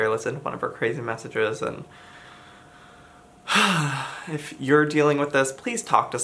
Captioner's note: sighs